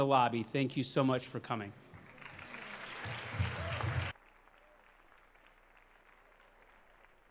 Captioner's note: applause